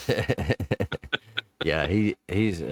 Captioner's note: laughing